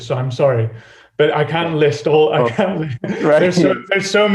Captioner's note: laughs